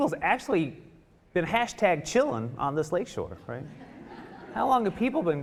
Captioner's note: audience laughing